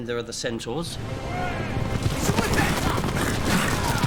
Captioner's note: centaur yelling